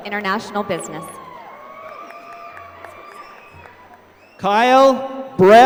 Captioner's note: applause